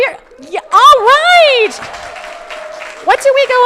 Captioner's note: crowd applauding